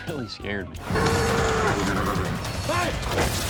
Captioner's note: horse neighing